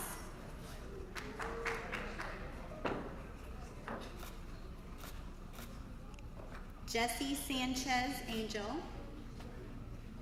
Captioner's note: applause